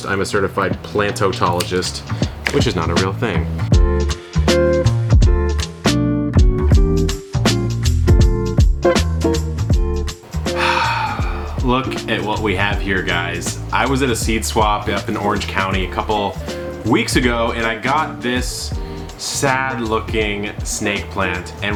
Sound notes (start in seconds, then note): 3.7 funky relaxing music; 10.4 exhales sharply